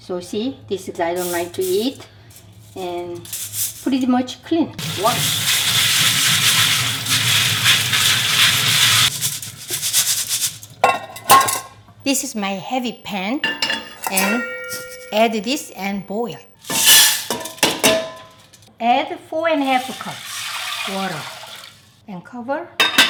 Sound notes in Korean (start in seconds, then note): 5.4 팥 찰랑거리는 소리